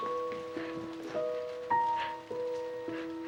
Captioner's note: sobbing